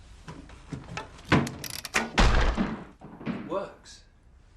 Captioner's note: crashing